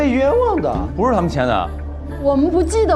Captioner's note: cracked voice